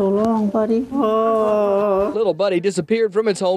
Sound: groaning

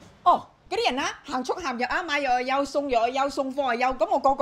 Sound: in Cantonese

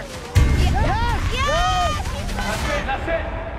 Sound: group cheers

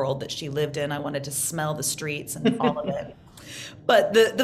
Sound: laughs

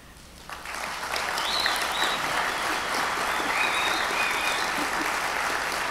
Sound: audience applauds; audience whistles

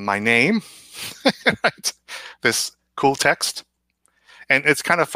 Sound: laughs

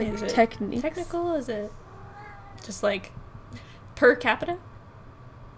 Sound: meows

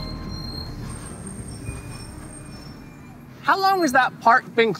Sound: breaks squeaking

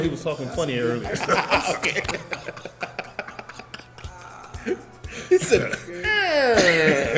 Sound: laugh; laugh

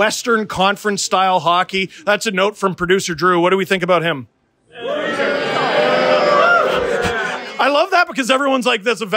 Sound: mild booing

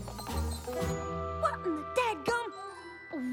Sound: wheels squeaking

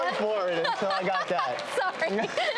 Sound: laughs

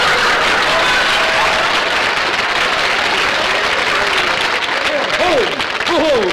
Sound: audience laughter; applause

